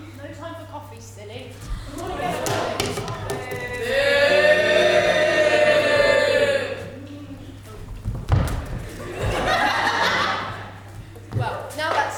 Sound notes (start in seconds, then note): 11.5 audience: “BOOO”